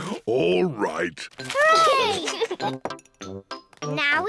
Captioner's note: giggles